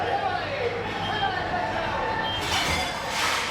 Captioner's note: background TV noise of celebrations